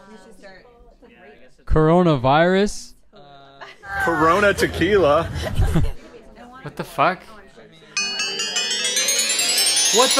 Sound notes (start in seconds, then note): 1.2 chuckles; 8.0 ethereal music